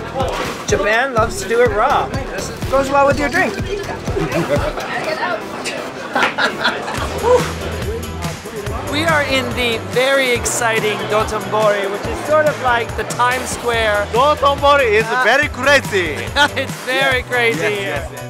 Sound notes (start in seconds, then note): 5.6 people laughing